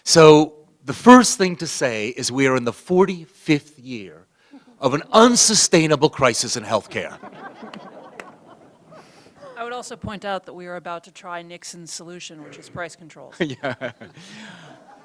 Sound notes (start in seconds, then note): 6.6 laughter; 13.2 laughs